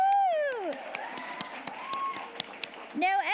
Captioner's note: audience applauding